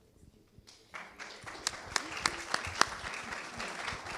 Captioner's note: clapping